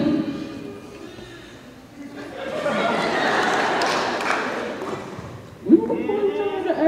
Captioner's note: indistinct chatter